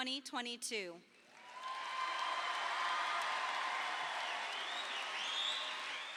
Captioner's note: audience applauding